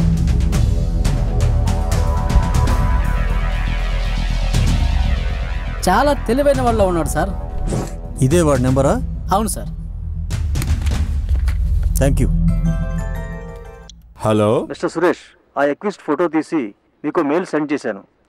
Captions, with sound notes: Looks like he is a very clever criminal. Is this his number? Yes, sir. Thank you. (Phone rings) Hello! Mr. Suresh. I mailed the accused's photo to you.